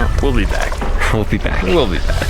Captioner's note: laughs